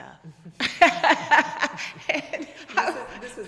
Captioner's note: both laughing